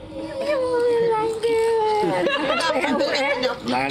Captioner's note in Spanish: risas